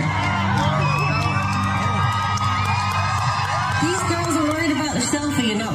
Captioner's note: applause